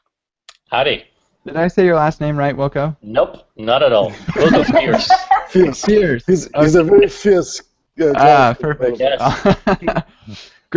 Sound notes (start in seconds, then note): 4.1 laughter; 9.2 laughter